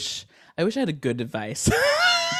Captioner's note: both laughing